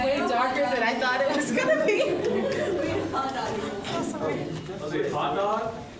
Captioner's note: laughs